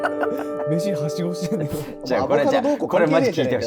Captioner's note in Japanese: ：笑い